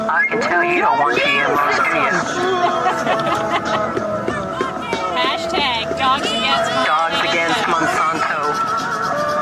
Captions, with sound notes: I can tell you don't want GMO's, do ya? [Laughs] Hashtag dogs against Monsanto.